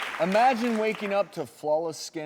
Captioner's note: applause